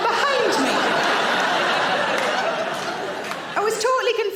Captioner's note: audience laughing